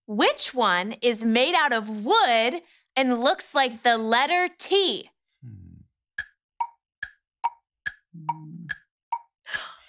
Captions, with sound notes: Which one is made out of wood and looks like the letter T? (clock ticking)